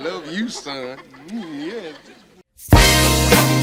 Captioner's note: audience laughter; chuckles; upbeat funky music